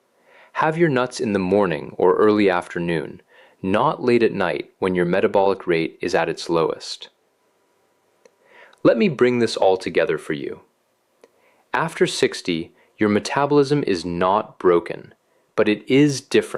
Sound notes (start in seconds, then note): 6.7 pause